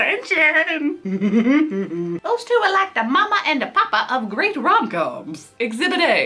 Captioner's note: laughs